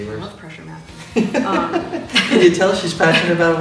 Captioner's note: laughs